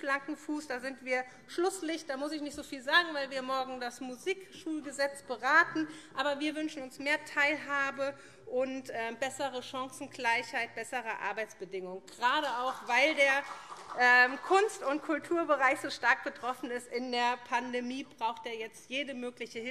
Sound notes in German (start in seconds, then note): 12.5 Beifall